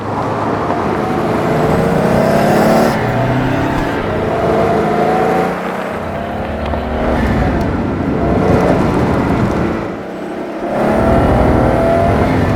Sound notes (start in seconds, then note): 0.2 echo of the engine; 2.7 somber roar from the exhaust; 7.0 turbo noise; 10.6 engine speeds up a lot